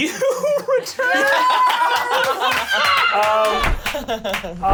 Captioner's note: cheering